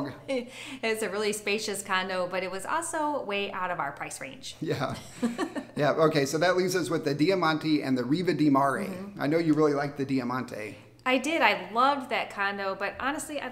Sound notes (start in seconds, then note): 0.2 laughs; 4.7 chuckles